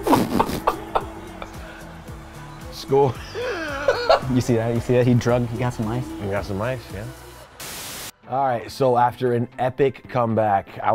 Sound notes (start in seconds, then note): 0.1 both laughing; 3.1 laughs; 7.2 static buzzing